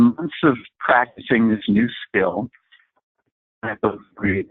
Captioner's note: distorted audio